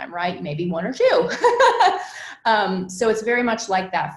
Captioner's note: laughs